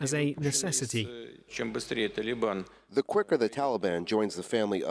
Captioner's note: through translator